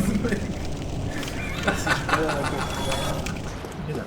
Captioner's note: pleased, menacing laughter